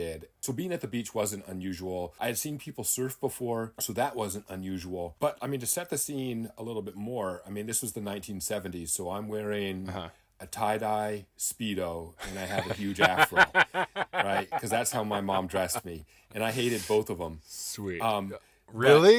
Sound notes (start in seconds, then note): 12.2 laughing